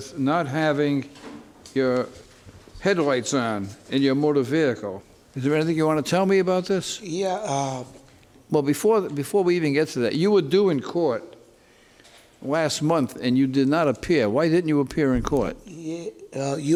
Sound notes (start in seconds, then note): none